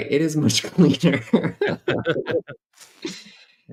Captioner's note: laughter